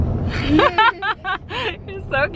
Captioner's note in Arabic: كلاهما يضحك